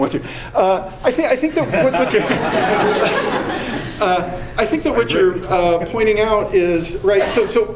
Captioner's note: laughter